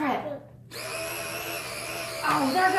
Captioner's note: money gun running